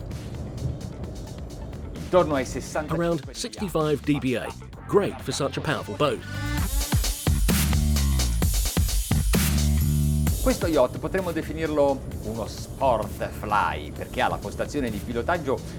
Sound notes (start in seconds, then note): 6.9 pumping dance music; 10.9 speaking in Italian